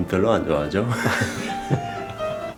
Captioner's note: laughs